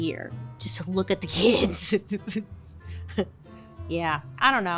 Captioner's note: laughing